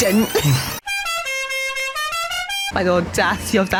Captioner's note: goofy Horn SFX